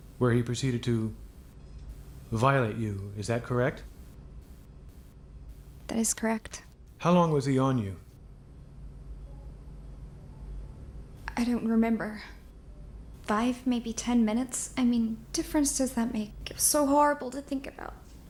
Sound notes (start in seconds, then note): none